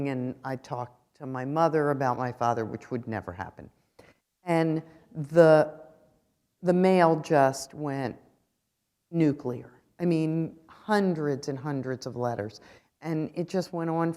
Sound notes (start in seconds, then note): none